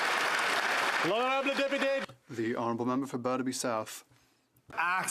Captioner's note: some Applause